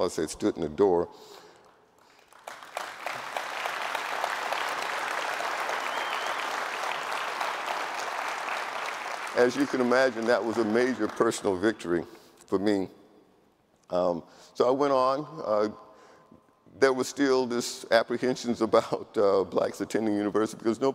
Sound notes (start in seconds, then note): 2.0 audience applauding; 2.9 audience cheering